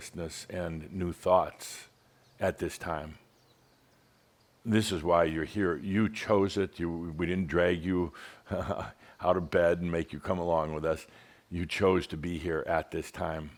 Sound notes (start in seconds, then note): 8.4 Adamus chuckles